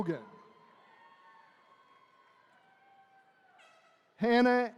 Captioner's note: attendees cheering